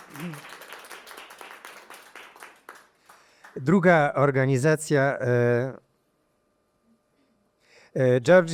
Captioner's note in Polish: Aplauz